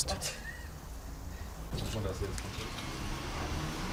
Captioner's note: quiet conversations